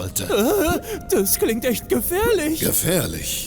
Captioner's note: panics